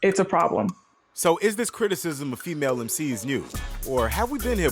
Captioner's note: voiceover